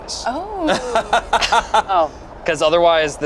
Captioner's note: laughs